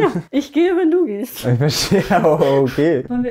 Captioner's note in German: Lachen